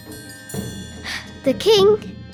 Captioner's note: sigh